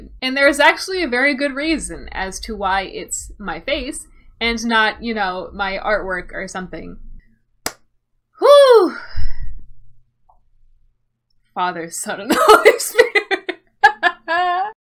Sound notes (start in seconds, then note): 8.9 deep breath; 13.8 laughs